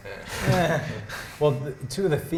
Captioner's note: chuckles